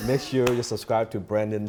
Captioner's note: laughs